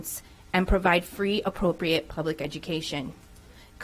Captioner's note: none